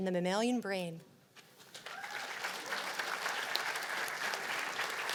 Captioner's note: cheers and applause